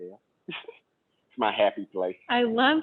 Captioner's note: laughs